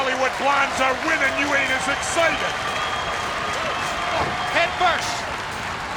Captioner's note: blows thudding